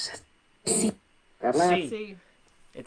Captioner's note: whispering